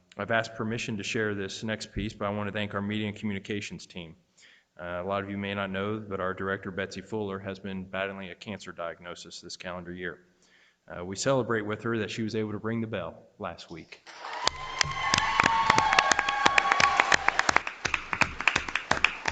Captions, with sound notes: I've asked permission to share this next piece, but I want to thank our Media Communications Team. A lot of you may not know that our director, Betsy Fuller, has been battling a cancer diagnosis this calendar year. We celebrate with her that she was able to ring the bell last week. (audience cheers)